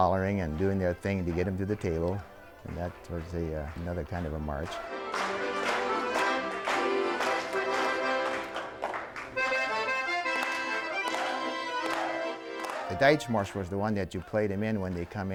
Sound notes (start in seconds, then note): 8.4 people clapping in rhythm